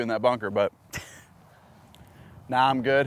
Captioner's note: laughs